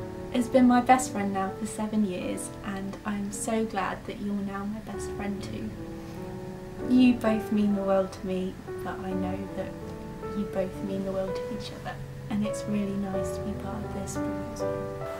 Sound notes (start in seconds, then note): none